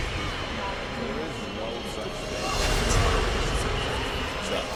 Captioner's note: slow dramatic music continues; voices chattering